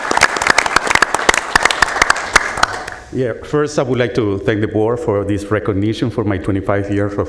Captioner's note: applause